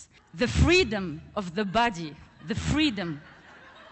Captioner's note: laughter